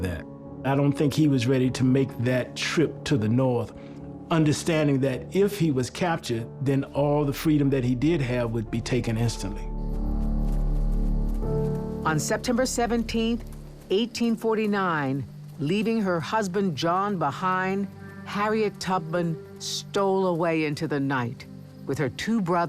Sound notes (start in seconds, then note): 9.8 crunching of leaves under footsteps; 11.0 eerie music